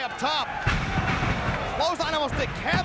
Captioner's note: bodies slamming